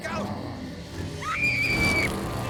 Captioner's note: screams